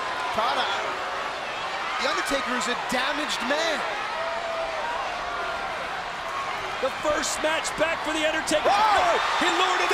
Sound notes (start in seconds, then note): 3.8 crowd yelling